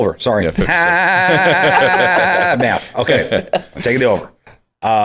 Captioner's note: laughter